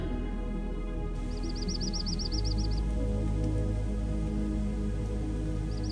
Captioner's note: sound if bird chirping